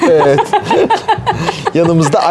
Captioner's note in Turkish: Gülüşmeler